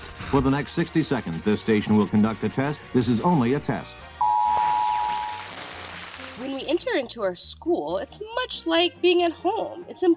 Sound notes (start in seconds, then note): 4.2 machine beeps; 4.5 static crackling